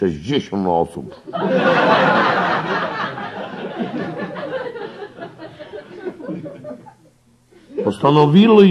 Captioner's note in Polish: śmiech